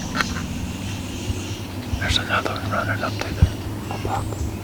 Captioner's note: whispering